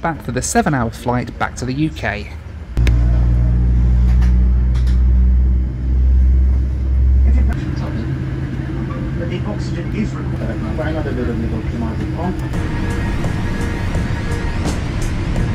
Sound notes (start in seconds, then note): 3.2 plane engine revving; 12.0 bright music